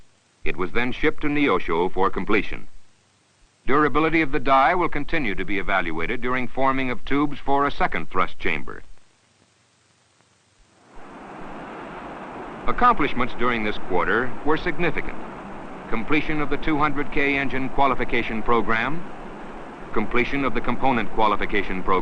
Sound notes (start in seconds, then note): 9.2 sound of Engines Firing